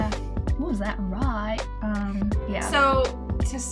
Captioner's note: accented